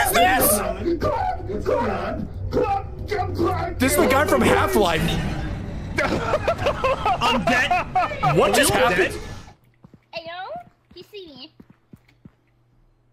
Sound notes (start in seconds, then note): 5.9 laughs